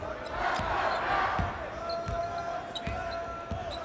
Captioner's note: crowd chants